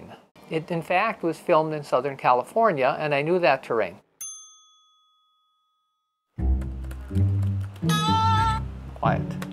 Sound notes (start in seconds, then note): 6.8 ding